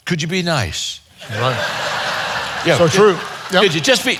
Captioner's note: audience laughing